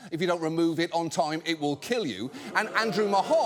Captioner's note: audience boos